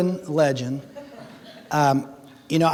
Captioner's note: audience laughing